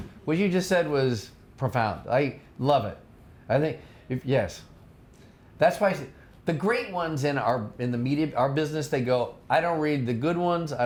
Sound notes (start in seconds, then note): none